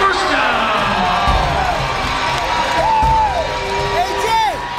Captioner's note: crowd is cheering